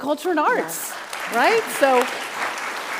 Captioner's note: group applauding